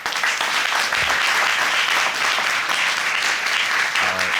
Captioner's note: audience applauding